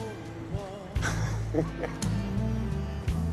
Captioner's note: laughing